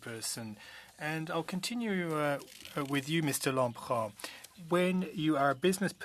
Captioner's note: speaking French